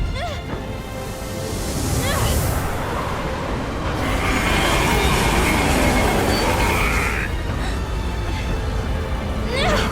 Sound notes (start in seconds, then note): 4.4 metal gear clanking